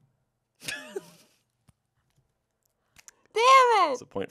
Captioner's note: laughs